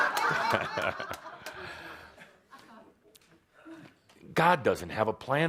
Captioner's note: more laughter